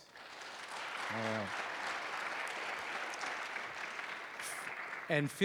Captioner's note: applause